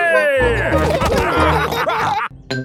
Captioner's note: all laughing